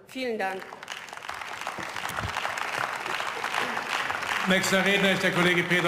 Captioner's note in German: Beifall